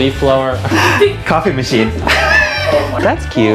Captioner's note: laughing